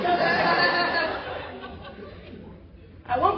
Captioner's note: laughter